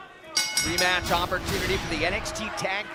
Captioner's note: bell